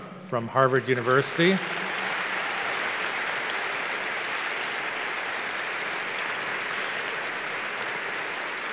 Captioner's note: applause